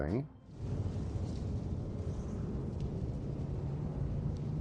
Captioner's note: creepy Howling Wind